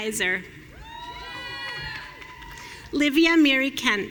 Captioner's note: audience cheering